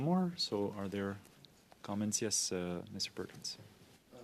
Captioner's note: speaking French